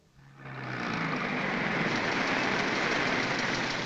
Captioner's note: car rumbling